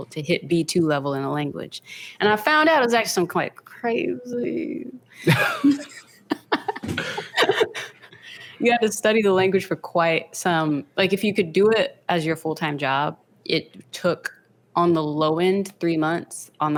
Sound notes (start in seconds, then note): 5.2 pair laughs